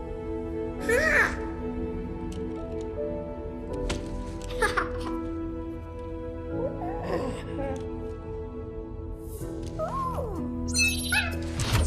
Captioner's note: cute baby gorilla noises